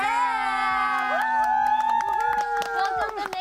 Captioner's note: applause